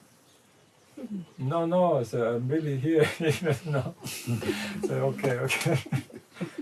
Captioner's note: laughter